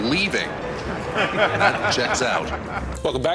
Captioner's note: laughter